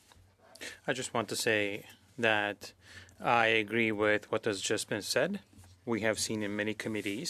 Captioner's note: speaking French